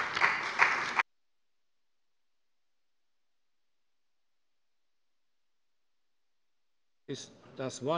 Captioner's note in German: Beifall bei dem BÜNDNIS 90/DIE GRÜNEN und der CDU